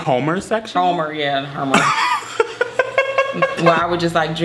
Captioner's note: both laugh